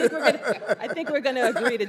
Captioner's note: laughter